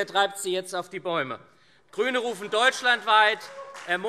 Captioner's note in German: Beifall SPD, CDU, Freie Demokraten und vereinzelt AfD